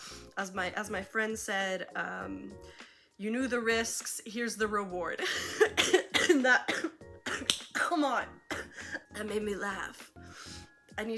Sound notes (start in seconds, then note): 5.2 laughs and starts coughing